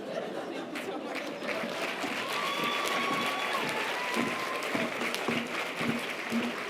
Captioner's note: audience applause and cheers